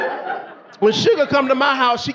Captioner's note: audience laughing